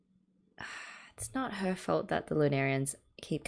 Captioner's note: sighs